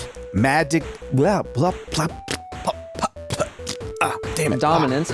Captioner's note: sputtering noises